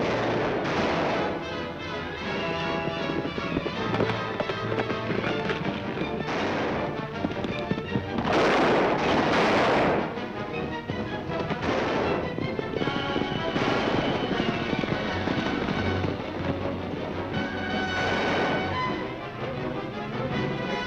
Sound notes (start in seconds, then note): 0.2 guns firing; 2.6 upbeat dramatic music; 6.5 guns firing; 9.2 upbeat dramatic music; 12.0 guns firing; 13.9 upbeat dramatic music; 18.2 gun firing; 20.6 upbeat dramatic music